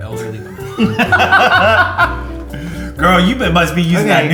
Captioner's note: laughs